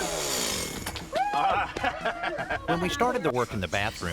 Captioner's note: cheering